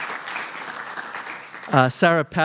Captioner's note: applause